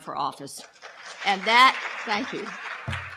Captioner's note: crowd claps